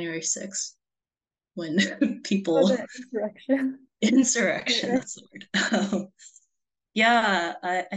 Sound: laughs

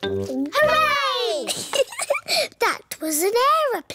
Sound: giggles

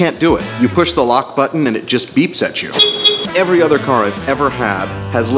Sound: beep beep

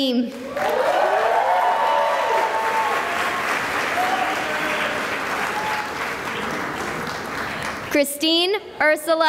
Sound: cheering and applause

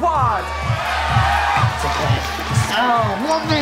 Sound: crowd cheers

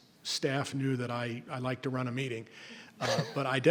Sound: laughs

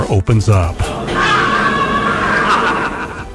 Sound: screaming!

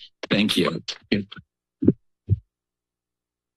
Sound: mic thuds

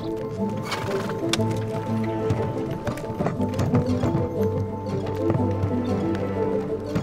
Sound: horses snorting; carriage rattling

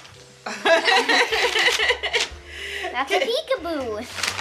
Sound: laughter

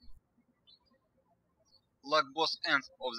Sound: birds chirping

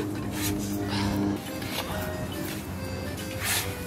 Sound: sand crunches

